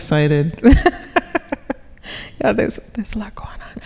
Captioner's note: laughing